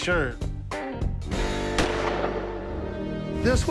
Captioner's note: gunshot